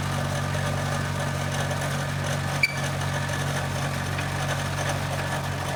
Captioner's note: machinery continues rumbling